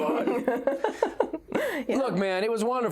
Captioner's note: laughs